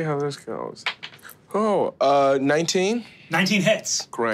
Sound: dice clatters

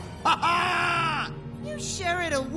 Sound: evil laugh

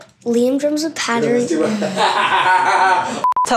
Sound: laughters

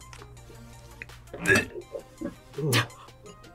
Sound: gags

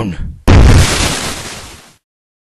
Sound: explosion

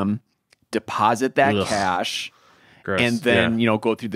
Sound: grunting

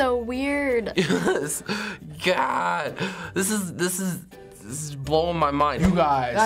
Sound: laughs

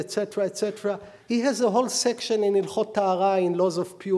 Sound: speaking hebrew

